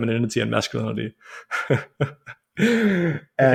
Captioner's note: laughs